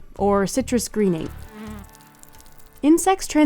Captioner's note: leaf crackling